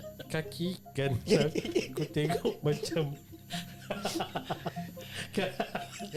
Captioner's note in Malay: ketawa